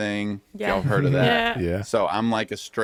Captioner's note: laughs